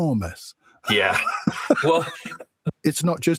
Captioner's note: laughing